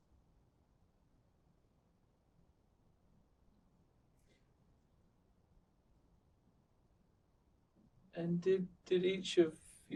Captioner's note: pauses 8 seconds